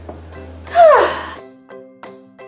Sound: sighs

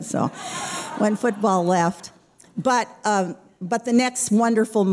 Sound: laughter

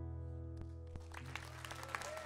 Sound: audience cheering

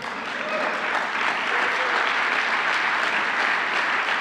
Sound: audience applauding

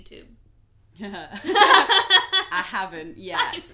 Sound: laughter

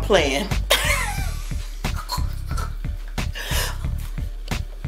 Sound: mom laughs

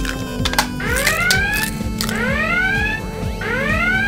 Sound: alarm sounds

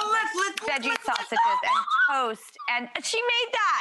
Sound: squealing

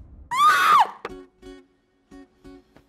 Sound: screams

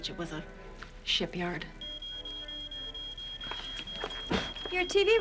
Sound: smoke alarm beeping

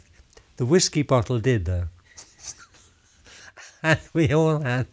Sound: laughs

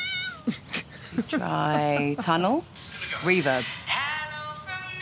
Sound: laughing

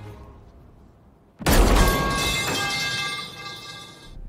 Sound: pipe drop sfx

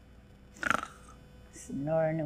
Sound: snoring

